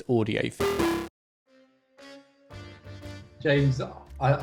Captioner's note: device chimes